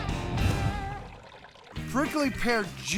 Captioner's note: pouring